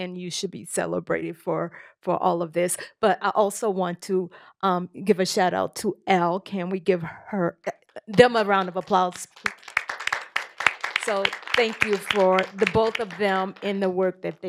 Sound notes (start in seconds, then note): 9.9 applause